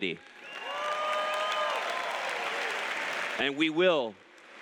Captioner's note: applause